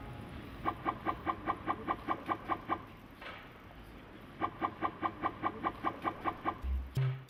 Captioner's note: game Makes Blooping Noise